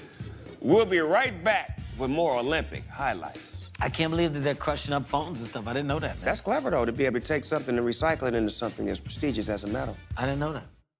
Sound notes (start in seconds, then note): none